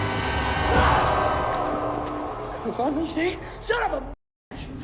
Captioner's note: sinister music; Simon screams